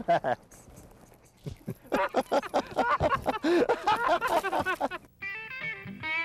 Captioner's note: laughter; music stinger